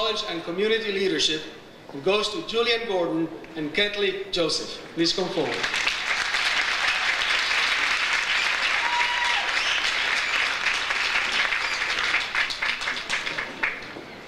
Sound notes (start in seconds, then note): 5.4 audience applauds; 9.1 audience cheers